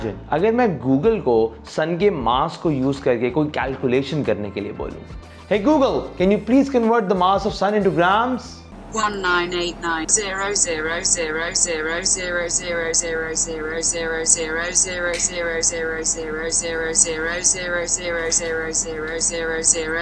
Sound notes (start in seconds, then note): 8.5 Google in robotic voice